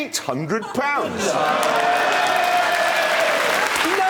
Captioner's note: cheering